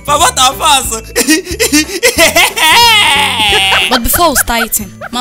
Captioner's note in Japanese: マークの笑い声